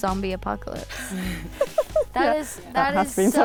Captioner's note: laughs